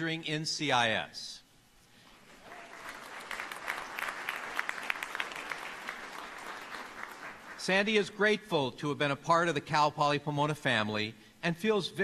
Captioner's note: applause